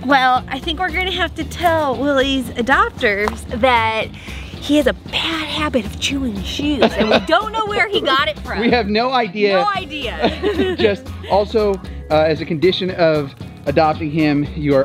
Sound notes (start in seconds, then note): 10.1 both laughing